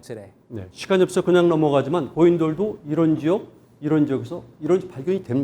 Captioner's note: speaking in Korean